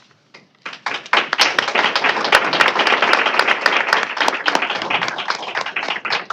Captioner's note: applause